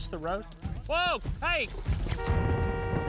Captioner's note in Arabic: بوق السيارة